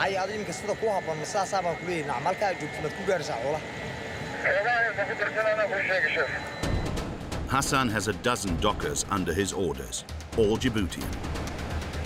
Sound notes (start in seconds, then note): 0.3 speaking foreign language; 4.8 man speaking foreign language